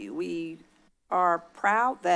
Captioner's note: none